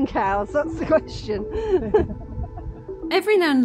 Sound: laughter

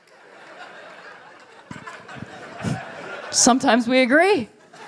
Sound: laughter

